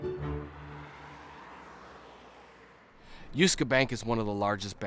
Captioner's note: car engines running